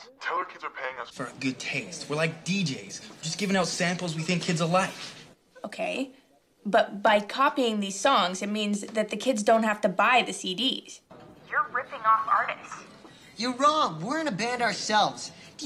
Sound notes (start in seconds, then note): none